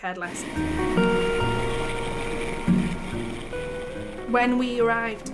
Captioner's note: helicopter whirring; lighthearted music